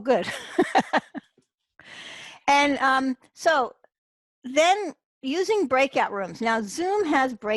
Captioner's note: chuckles